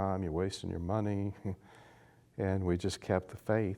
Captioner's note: chuckles